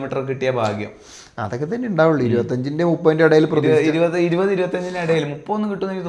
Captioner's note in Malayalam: ചീറ്റുന്നു